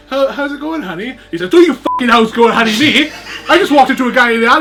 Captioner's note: beep